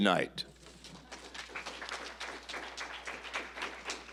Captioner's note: applause